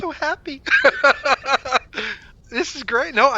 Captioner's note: laughter